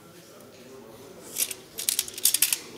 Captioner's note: clacking